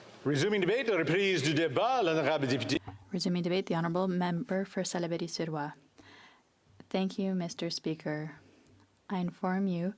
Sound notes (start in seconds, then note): 4.7 speaking French